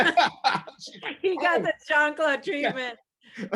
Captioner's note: laughs